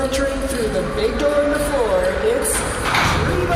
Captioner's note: music plays, large doors open, crowd cheers